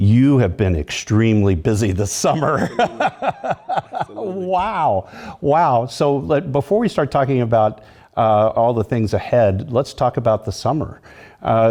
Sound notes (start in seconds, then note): 2.4 laugh